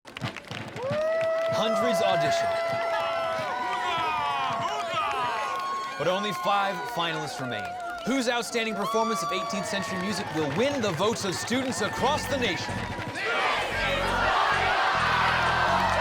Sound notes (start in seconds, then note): 0.8 cheers and applause; 3.6 cheers